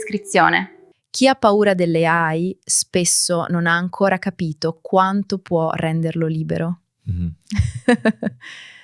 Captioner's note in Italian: risate